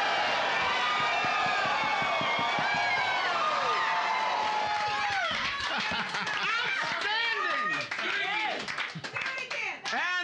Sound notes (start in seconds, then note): 0.0 audience shouting; 4.8 cheers and applause; 5.6 loudly laughing; 8.8 applause